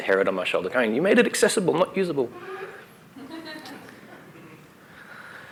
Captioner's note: laughter